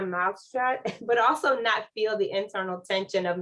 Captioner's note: laughter